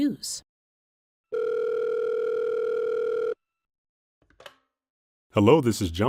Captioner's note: phone rings